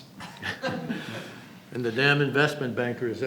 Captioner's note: laughter